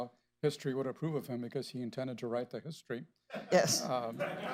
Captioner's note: laughter